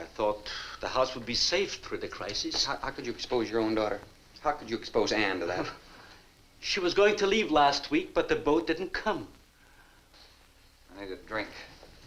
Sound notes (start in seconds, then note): none